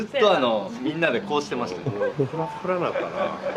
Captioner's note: laughs